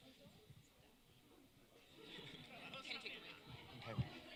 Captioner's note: talking in background